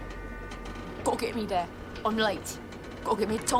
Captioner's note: imitating %*#